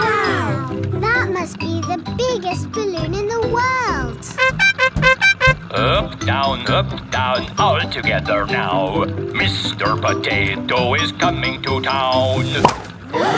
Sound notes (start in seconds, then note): 4.2 horn beeping